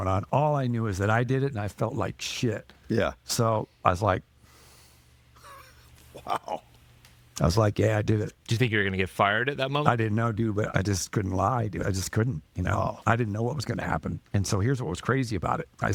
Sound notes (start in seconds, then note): 6.6 slaps hand on thigh